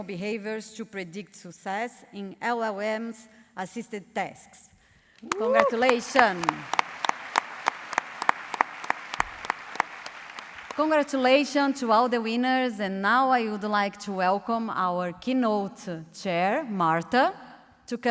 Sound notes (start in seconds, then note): 7.2 applause